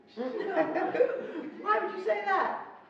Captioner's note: laughing